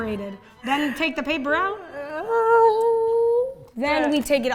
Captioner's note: wailing